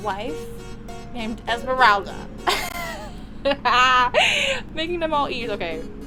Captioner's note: laughter